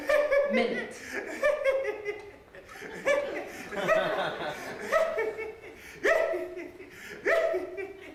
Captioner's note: laughing